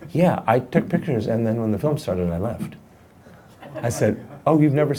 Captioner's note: laughing